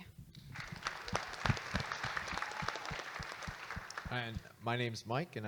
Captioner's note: audience Applauding